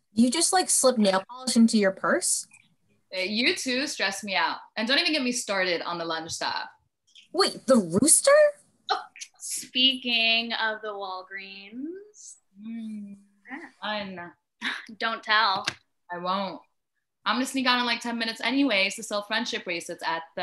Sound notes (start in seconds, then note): none